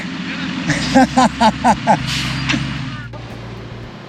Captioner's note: laughter